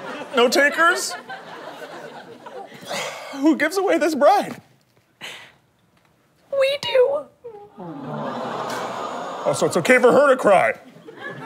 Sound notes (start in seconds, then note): 2.8 sighs; 6.6 crying; 7.7 audience aw's